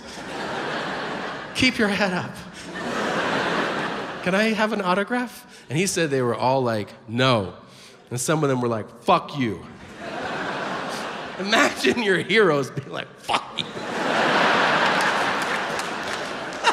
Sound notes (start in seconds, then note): 0.0 audience laughs; 9.8 audience laughs; 14.2 audience claps